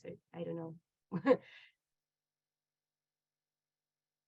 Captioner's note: laughs